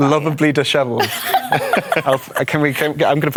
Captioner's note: laughter